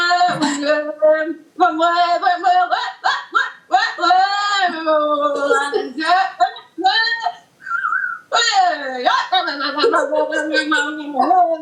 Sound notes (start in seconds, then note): 7.6 whistles erratically